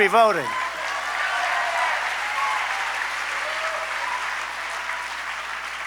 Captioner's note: applause